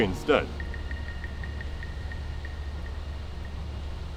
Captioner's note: the sound of two sticks tapping together